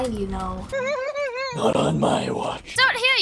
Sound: high pitched laugh

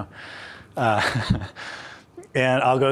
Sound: laughs

